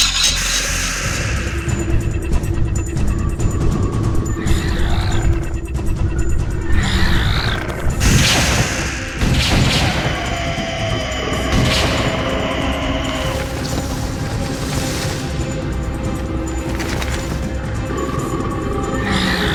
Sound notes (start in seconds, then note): 0.1 creature growling; 0.1 dramatic music; 4.0 creature snarling; 8.0 gun firing; 9.7 creature screeching; 11.8 creature growling; 11.8 dramatic music continues